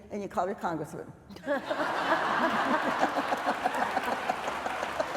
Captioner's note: laughter